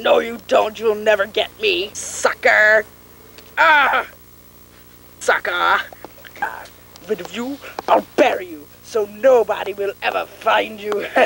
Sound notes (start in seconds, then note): 3.6 screams as his own head inexplicably falls off